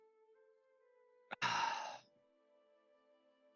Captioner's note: sigh